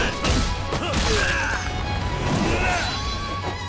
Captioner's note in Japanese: うめき声